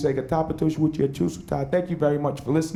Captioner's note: speaking native language